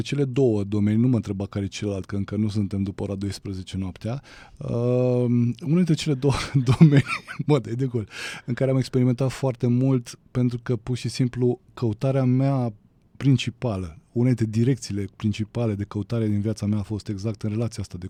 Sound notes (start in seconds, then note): 6.2 laughter